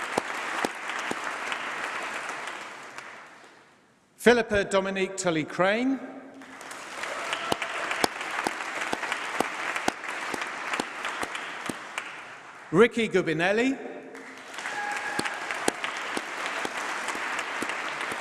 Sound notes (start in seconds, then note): 6.4 applause; 14.1 applause